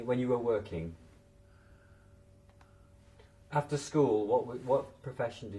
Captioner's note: pauses for 3 seconds